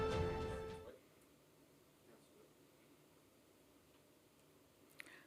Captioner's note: silence